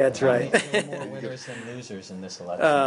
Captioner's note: laughter